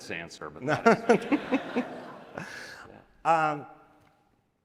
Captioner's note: audience laughs